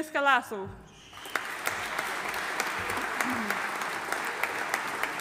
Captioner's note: audience applauding